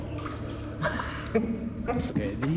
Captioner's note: laughs